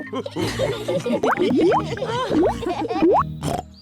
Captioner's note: all laugh; laughs and snorts; oinks